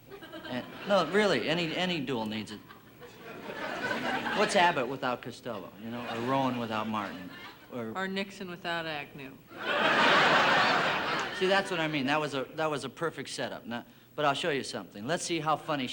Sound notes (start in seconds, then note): 9.5 audience laughing